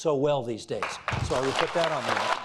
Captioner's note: applauding